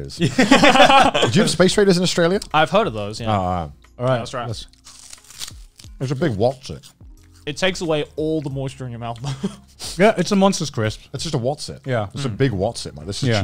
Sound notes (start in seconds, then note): 0.3 laughing; 4.7 crunching